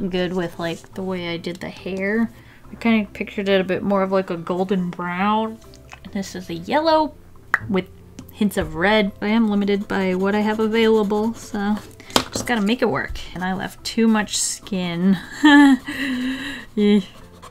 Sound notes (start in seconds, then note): 7.5 mouth pop; 15.2 haha, deep inhale, Eee